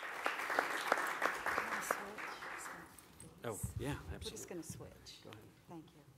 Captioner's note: applause